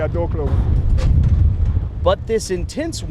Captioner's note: wind whistling